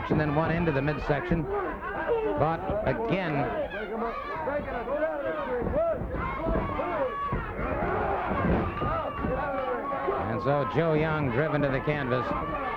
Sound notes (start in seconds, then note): 4.6 crowd clamoring; 5.6 footsteps plodding; 7.9 body thudding; 7.9 wrestlers grunting